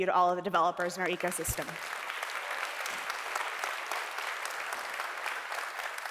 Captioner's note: audience applauding